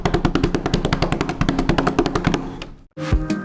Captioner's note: hands tap; calm music